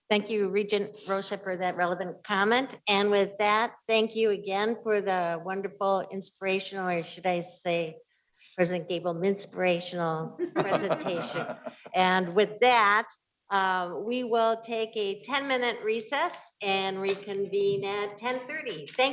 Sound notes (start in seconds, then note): 10.5 audience laughing